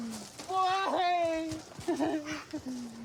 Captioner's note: sobs